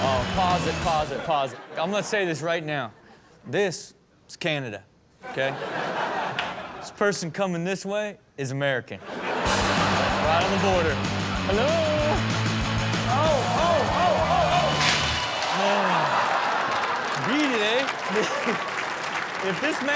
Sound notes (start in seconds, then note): 9.0 audience laughs; 15.4 audience laughs; 18.3 audience applauds; 19.7 laughs